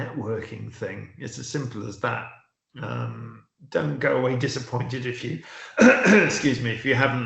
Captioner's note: coughs